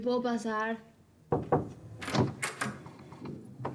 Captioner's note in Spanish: toques en la puerta